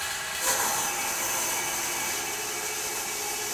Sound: saw whirring

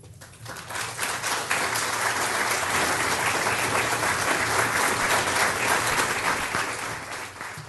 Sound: applause

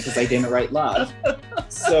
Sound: laughing

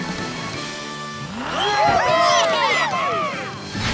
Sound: cheering

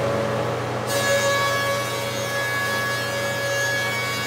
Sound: machine buzzing

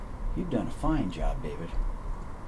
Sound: none

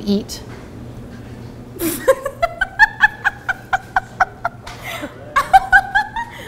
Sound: laughs

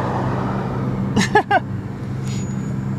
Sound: laughing

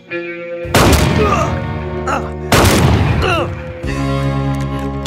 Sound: gunshot

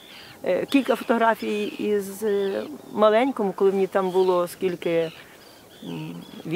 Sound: gulls squawking; jewish harp music

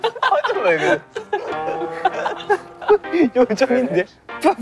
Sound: unable to hold the laughter

